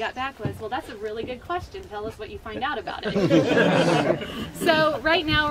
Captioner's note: laughing